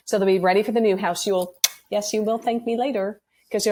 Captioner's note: blows kiss